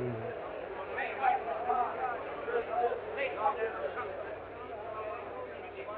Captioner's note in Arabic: الناس يتحادثون